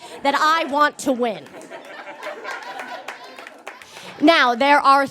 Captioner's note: scattered cackling and applause